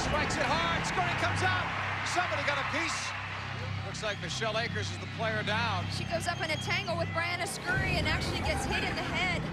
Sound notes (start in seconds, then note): 1.1 tv announcer